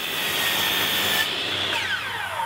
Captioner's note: drop saw